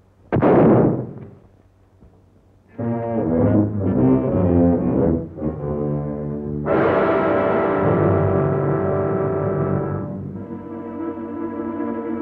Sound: gunshot

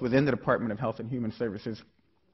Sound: none

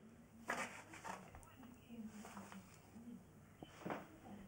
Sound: papers ruffling

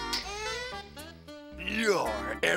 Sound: snaps fingers

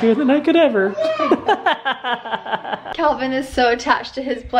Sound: laughing

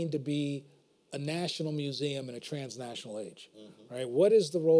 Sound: none

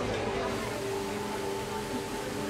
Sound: water spraying

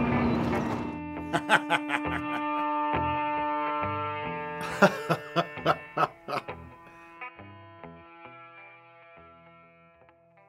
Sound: laughter and music

